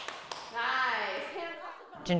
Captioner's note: women cheering